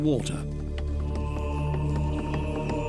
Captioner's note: men chanting